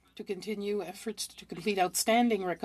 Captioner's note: speaking French